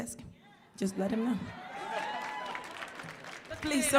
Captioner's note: audience cheering